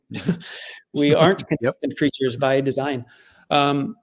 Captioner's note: chuckles